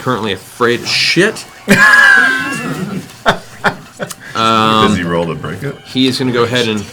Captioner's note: laughs